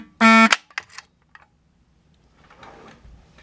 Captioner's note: fire beeper stops